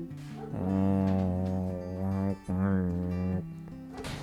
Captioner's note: humming